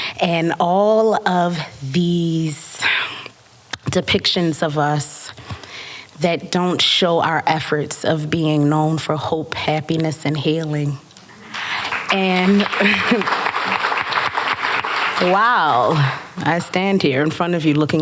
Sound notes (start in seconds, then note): 11.3 applause